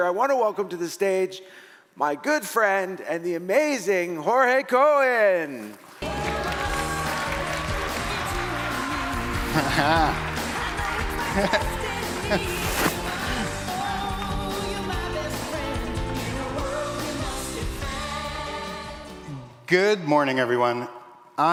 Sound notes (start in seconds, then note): 6.0 audience applauding; 9.2 audience laughing